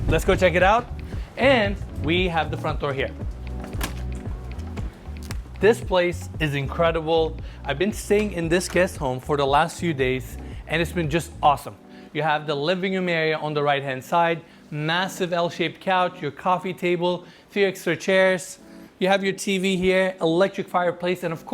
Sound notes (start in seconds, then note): 3.5 door latch clunks